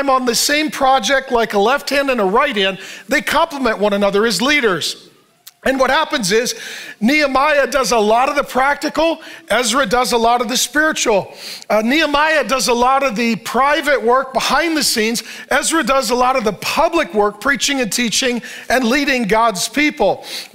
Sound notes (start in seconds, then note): none